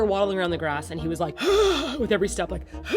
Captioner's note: another old man wheeze; old man wheeze